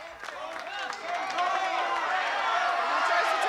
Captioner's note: shouting